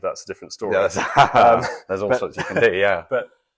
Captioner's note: laughing